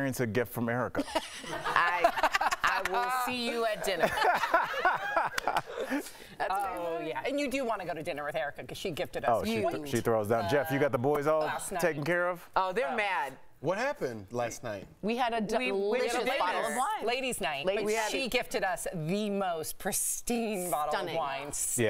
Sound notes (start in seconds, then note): 6.5 laughter